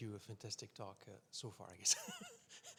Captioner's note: laughs